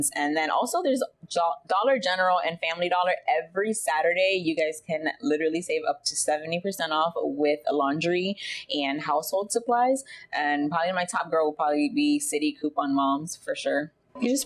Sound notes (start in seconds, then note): none